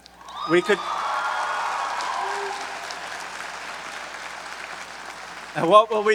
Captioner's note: audience cheering and applauding